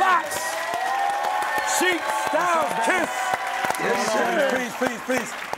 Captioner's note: audience clapping